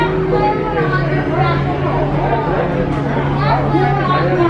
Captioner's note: indistinct chatters